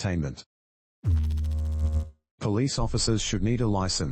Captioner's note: electrical noise